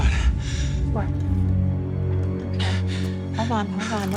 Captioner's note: breathing shakily